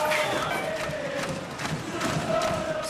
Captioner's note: chanting